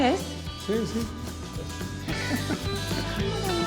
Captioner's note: laughter